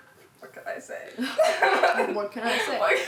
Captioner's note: laughs